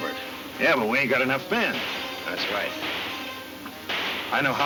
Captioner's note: guns firing in distance